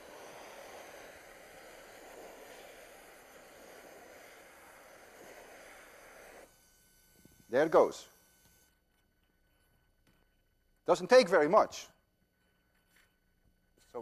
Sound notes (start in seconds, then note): 0.0 blowtorch hissing